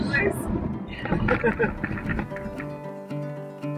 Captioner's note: chuckling